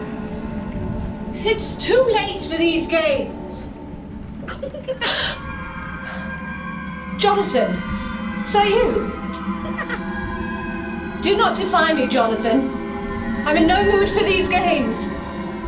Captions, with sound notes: It's too late for these games. [Child's laugh] Jonathan, is that you? Do not defy me Jonathan, i'm in no mood for these games.